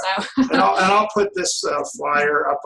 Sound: laughs

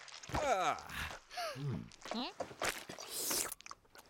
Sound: Sema gasping

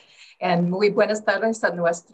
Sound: in foreign language

